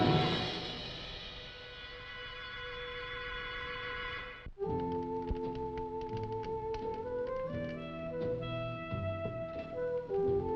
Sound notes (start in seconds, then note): 5.4 slow music; 6.6 fire crackling